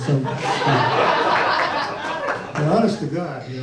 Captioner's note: audience laughs